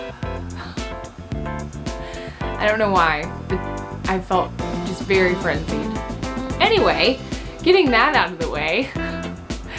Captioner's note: breathes